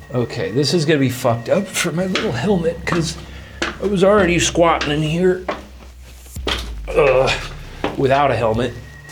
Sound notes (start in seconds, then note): 6.8 grunts